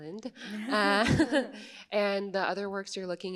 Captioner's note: laughs